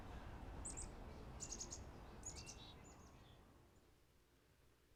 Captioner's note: birds chirping